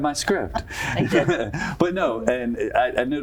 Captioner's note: laugh